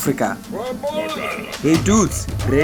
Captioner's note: men grumbling